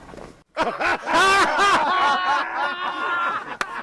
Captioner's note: laughing